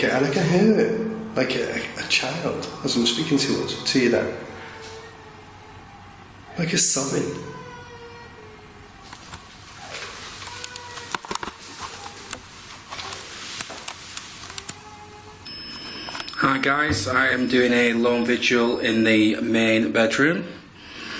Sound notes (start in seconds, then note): 4.6 child crying; 7.4 child sobbing